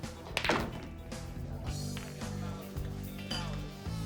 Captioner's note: balls clacking